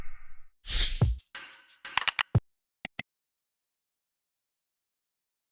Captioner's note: upbeat music; mouse clicking